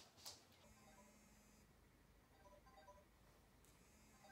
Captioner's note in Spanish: alarma